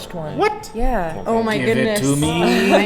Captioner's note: exclaiming